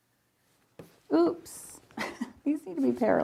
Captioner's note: laughs